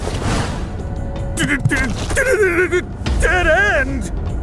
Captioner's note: horse stuttering